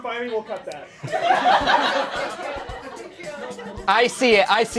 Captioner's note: everyone laughs